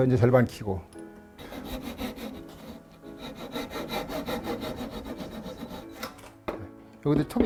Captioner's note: sawing sound